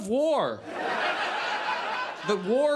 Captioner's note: audience laughs